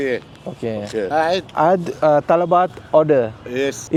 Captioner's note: speaking Arabic